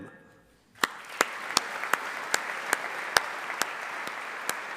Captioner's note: audience applauding